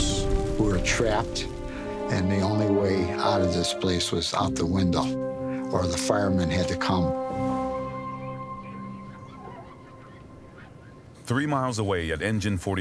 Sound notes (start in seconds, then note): 8.5 polishing cloths squeaking